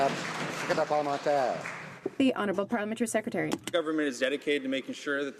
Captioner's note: some Applause